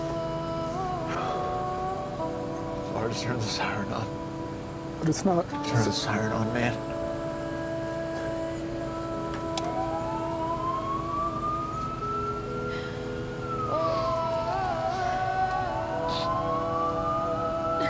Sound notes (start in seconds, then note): 2.9 voice breaking; 9.6 siren wailing; 17.3 sobbing